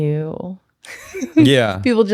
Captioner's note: laughs